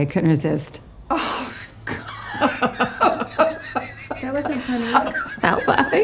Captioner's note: laughing